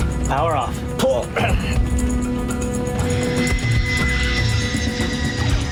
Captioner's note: airplane engines whirring